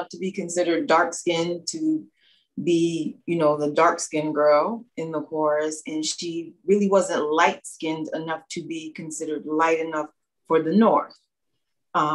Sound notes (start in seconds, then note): none